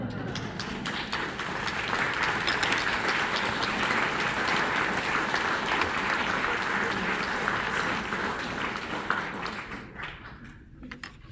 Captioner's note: applause